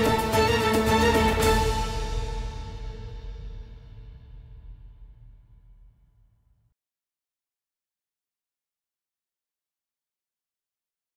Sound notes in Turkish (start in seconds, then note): 6.9 Sessizlik